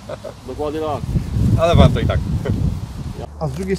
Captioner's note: laugh